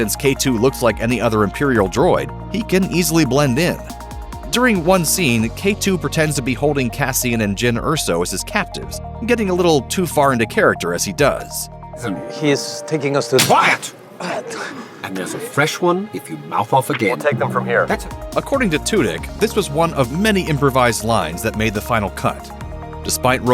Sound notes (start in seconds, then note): 13.4 slap